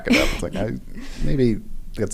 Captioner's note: laugh